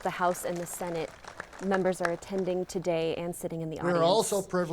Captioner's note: applause